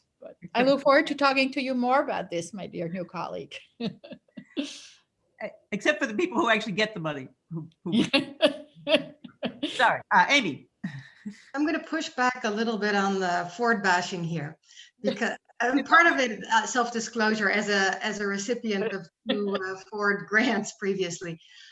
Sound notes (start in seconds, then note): 3.6 laughs; 7.9 laughs